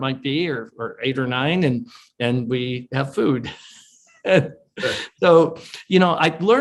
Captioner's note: chuckles